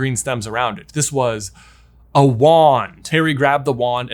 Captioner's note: gasps